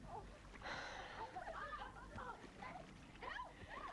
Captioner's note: Hundra sighs